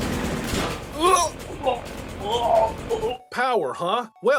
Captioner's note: vomiting